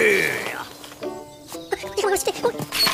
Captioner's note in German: aufgeregtes Gebrabbel